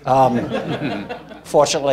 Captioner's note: laughing